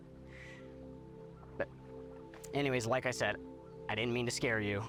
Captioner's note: inhales